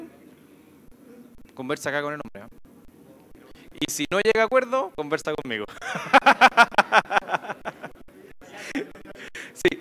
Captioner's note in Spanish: risas